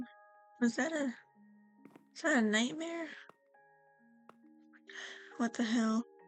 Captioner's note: heavy breathing